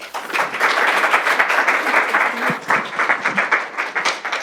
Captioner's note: applause